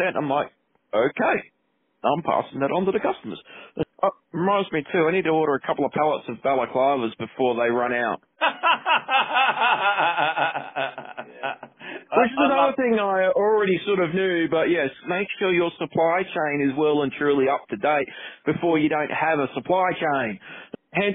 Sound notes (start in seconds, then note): 8.4 laughing